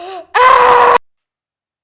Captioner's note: feral screeching